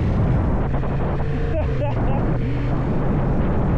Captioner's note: relieved laugh